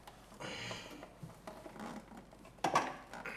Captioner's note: breathing